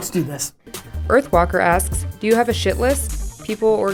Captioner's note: voiceover